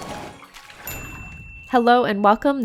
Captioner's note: dings